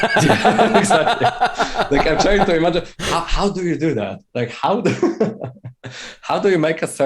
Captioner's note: laughter; laughter